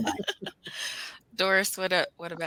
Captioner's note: all laugh softly